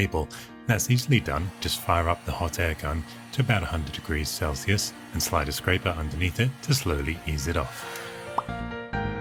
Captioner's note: pop!